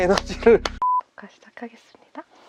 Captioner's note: beep